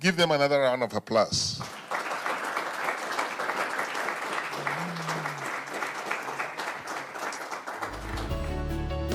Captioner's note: applause